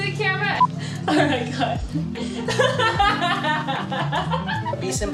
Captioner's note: hahahahaha